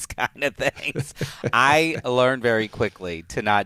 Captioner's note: laughs